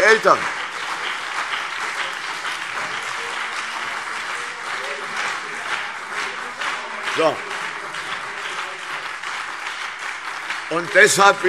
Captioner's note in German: Beifall CDU und BÜNDNIS 90/DIE GRÜNEN